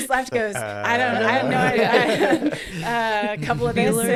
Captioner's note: laughs